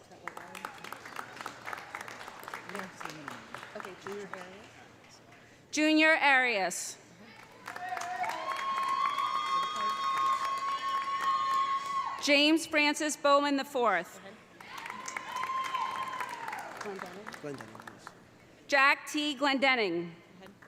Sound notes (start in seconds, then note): 0.0 audience applauding; 7.4 audience applauding; 7.6 audience cheering; 14.6 audience applauding; 14.7 audience cheering